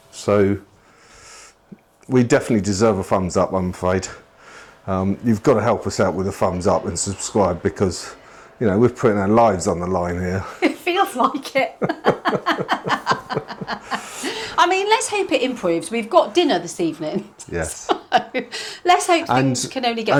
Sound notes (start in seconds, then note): 13.8 laughter